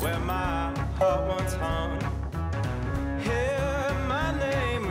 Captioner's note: bell ringing